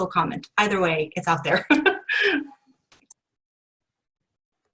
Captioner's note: laughs